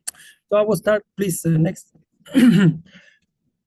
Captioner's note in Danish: clears throat